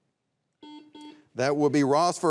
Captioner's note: buzzer beeps